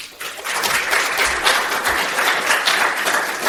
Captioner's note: applause